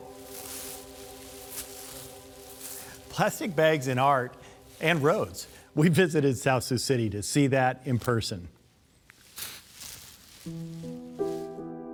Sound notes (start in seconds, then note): 0.0 gentle music; 9.0 crunching sounds; 9.8 gentle music